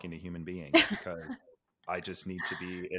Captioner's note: laughs